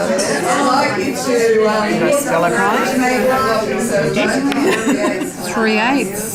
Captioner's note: participant chatter